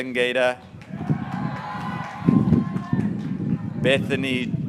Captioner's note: graduates cheering